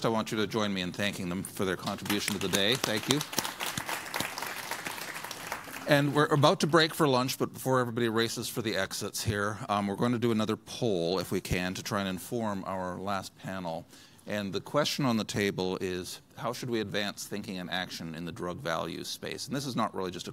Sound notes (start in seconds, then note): 1.9 applause